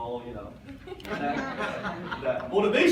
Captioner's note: audience laughs